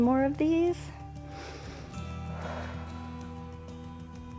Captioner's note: inhales and exhales